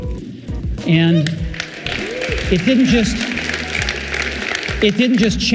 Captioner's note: audience applauding